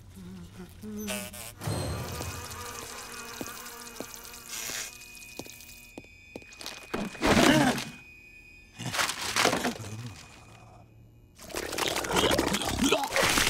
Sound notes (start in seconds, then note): 0.0 buzzing; 7.3 grunting; 11.6 gagging